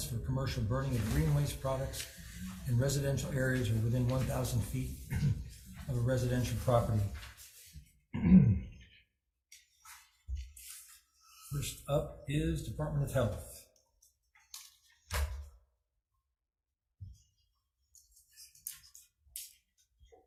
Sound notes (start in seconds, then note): 14.3 papers rustling